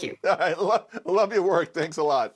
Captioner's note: laughter